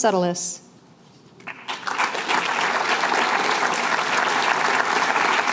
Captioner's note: applause